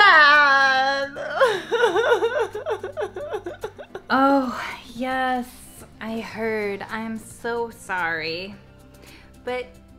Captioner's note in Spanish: La risa